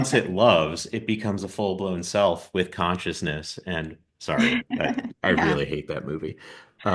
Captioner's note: laughs